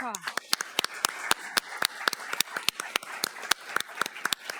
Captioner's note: everyone applauding